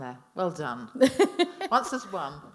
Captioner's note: laughing